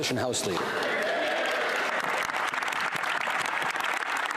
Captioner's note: speaking French; some Applause